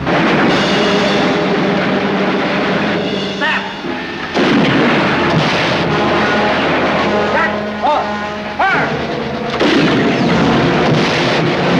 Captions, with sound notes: - Set! (cannon booming) (explosion) - Set. - Off. - Fire! (cannon booming) (explosion)